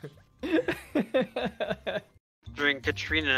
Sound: laughter

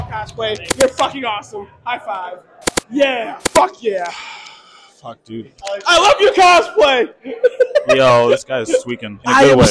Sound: sigh

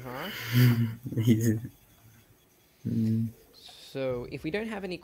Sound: harsh giggles

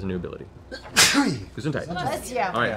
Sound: sneezes

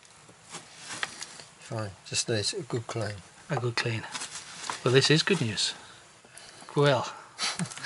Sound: laughs

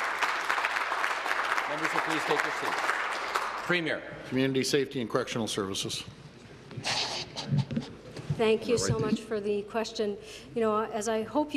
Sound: some Applause

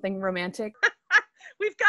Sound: laughter

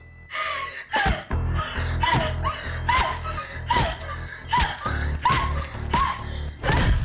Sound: tense sinister music; Jenelle grunting

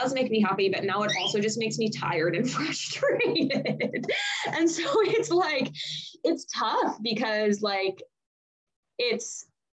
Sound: laughs

